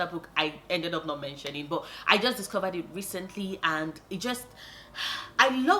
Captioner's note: sigh